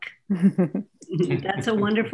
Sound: panelists laughing

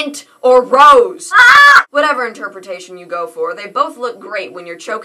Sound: hamlet yells

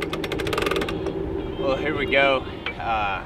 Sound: engine clanking

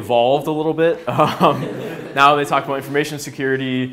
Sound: laughs

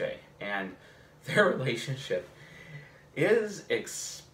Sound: chuckles

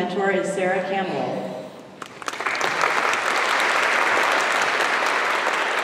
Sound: applause

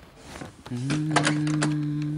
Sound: door opens

